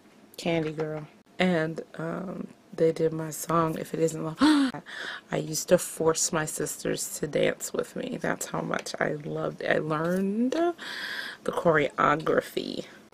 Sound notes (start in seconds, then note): 4.6 gasps all over again